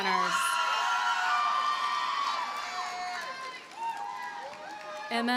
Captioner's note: audience cheers and applauds